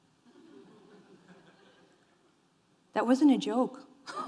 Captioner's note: audience laughing